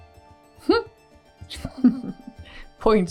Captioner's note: chuckles